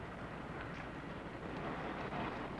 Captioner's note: none